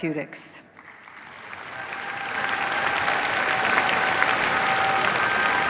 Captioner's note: cheers, applause